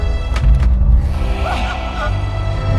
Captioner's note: Death Bird call